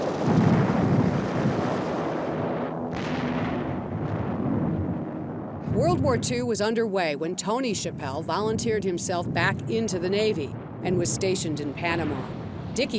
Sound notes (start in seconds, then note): 0.3 machine gun firing; 3.1 cannon booms